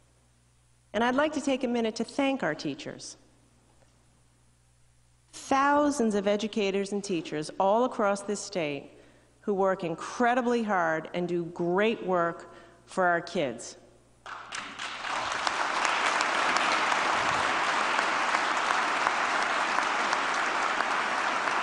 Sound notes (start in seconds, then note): 19.2 applause